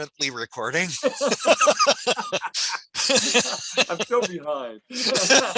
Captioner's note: laughing